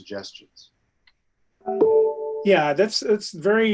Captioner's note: beep